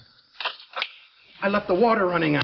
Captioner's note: Wilson clicks fingers